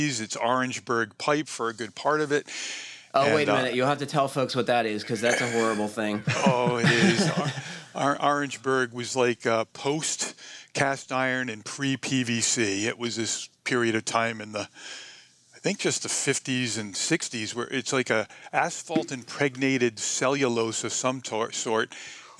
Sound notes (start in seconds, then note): 6.1 laughter